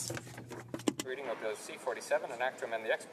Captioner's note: speaking French